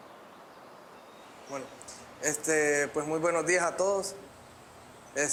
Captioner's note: man Speaking Spanish